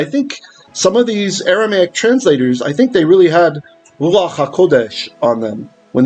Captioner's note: Hebrew